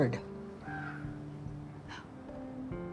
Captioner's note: caw